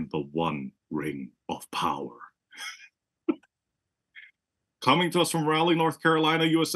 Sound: laugh

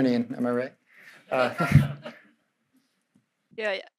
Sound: audience laughing

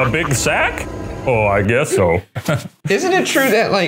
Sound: laughs; chuckles

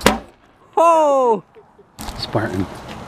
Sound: potato gun thuds

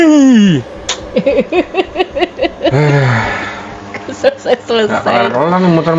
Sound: laughter

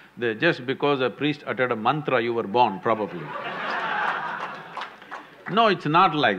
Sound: laughter/Applause

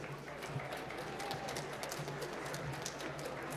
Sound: applause

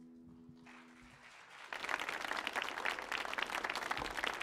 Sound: audience applauds

